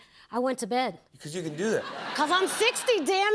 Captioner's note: laughter